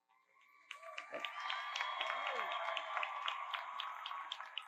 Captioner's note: audience cheers